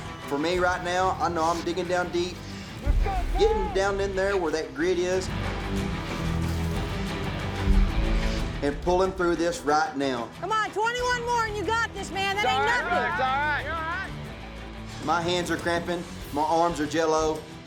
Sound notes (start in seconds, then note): 13.4 cowboys shout encouragement